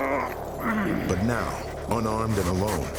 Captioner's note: grunting